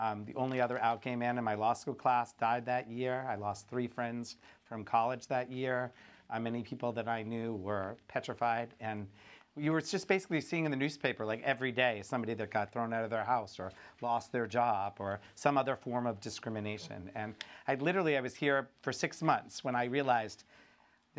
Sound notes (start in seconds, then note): none